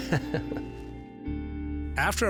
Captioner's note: laughing